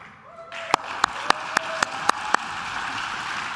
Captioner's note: claps